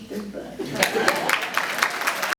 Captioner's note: audience clapping